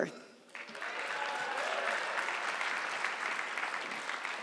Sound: audience clapping

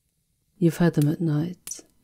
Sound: quietly

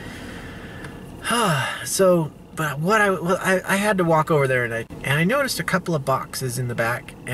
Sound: sigh

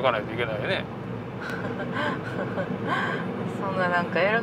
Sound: laughs

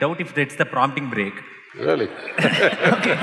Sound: laughter

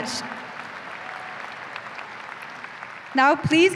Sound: applause

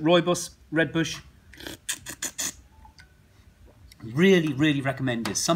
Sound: slurps

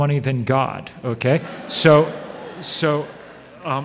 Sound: audience laughs

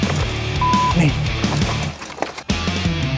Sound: beep

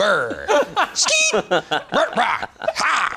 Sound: laughs

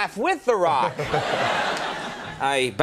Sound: The Rock and audience laughing

